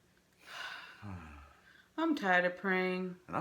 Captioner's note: sighs